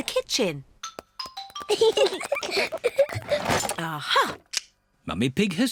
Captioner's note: peppa and george giggling